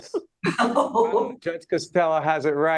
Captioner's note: laughing